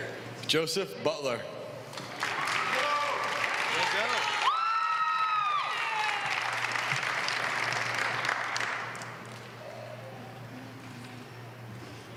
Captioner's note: applause